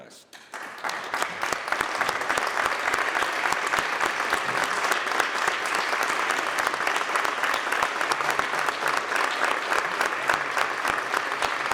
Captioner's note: applause